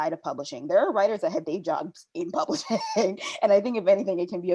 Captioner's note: laughing